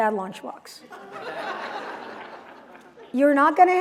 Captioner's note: laughter